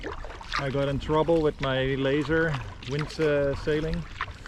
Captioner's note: wind